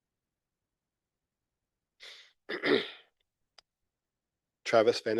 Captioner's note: clears throat